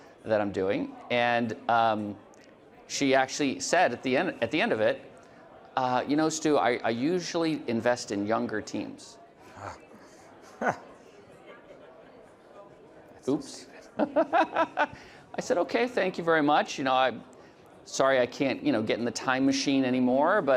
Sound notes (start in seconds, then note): 9.5 chuckles; 13.8 laughs